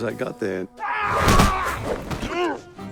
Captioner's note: man yelling